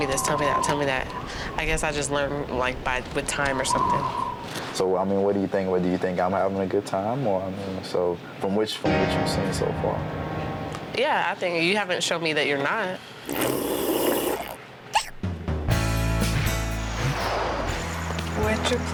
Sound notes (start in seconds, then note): 13.2 slurping; 16.1 upbeat music